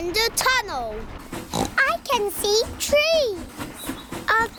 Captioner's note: oinks